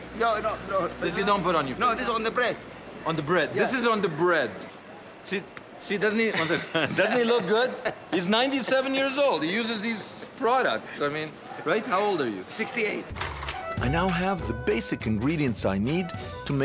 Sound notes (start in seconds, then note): 6.3 laughing